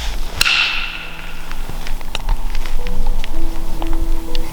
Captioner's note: stick knocks